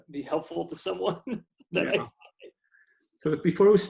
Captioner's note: laughs